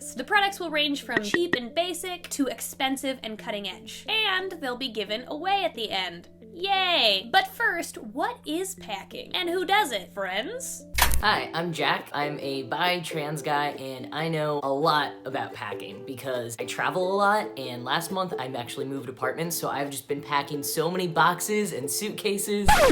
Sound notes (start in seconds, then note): 16.0 sarcasm; 22.6 record scratch